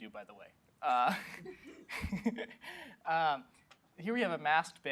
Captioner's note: chuckles